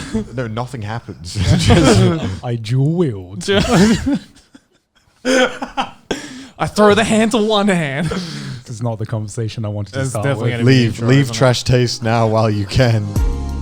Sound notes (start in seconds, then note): 3.4 all laughing; 13.3 upbeat music